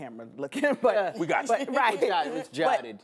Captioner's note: laughter